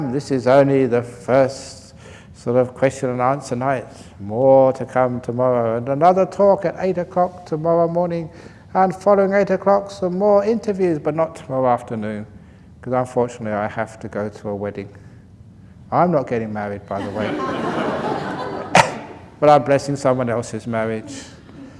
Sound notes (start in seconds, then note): 17.0 laughter